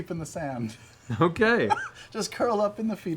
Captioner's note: laughs